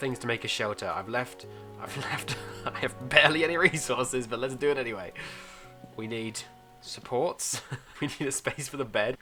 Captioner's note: laughs